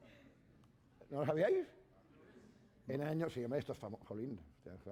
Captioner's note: speaking spanish